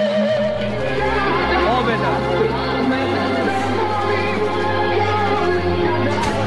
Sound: soldier speaking in foreign language

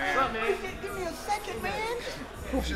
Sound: none

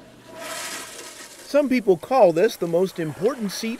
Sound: toilet flushing

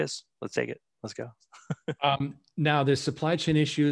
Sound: laughs

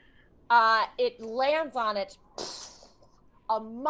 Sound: whooshes

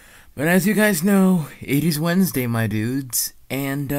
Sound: inhales

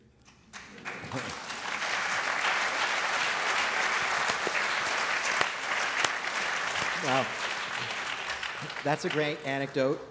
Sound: applause

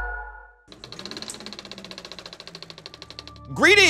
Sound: video shuttering

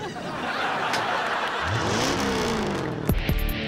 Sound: engine revving; theme music playing

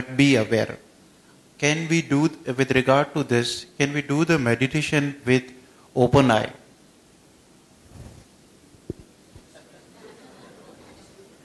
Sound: few laugh

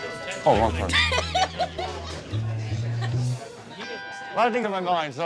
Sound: customer laughing

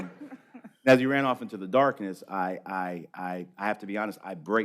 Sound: laughter

